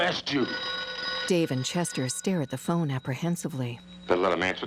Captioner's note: phone ringing